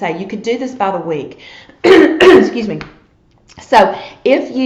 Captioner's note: coughs